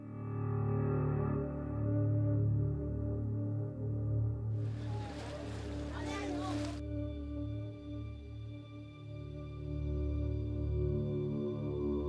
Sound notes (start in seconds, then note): 0.2 slow dramatic music; 4.6 background chatter; 7.7 slow dramatic music